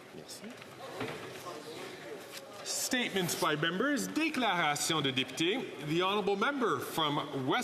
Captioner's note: speaking French